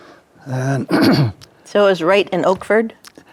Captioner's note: clears throat